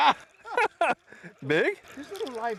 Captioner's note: laughter